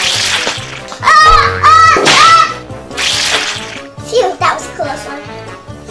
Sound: assistant yells

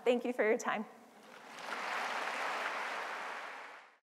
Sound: applause

